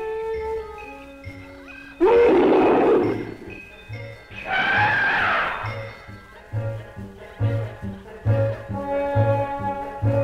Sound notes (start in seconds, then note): 2.0 Pete roaring; 3.7 roaring